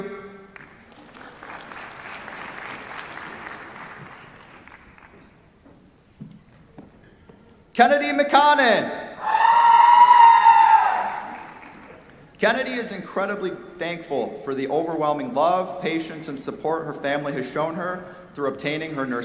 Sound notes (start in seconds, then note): 0.5 applause; 9.2 cheers, applause